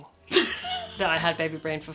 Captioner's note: laughing